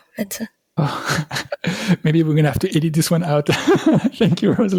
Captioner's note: laughter